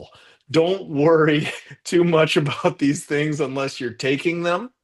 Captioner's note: chuckles